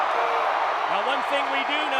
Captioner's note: crowd cheers